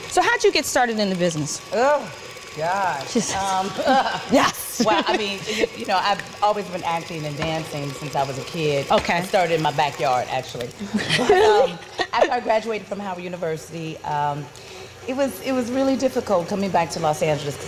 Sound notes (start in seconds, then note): 2.6 mumbling; 3.6 chuckling; 10.8 chuckling